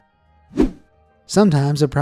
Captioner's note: image whooshing